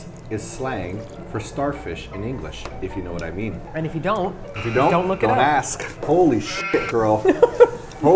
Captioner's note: bleet